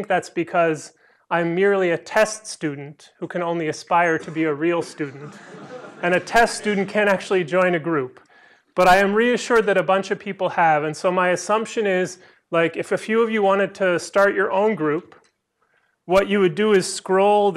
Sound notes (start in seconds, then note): 4.8 laughter